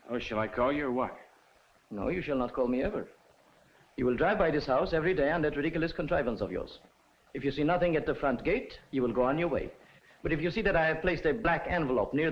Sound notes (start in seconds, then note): none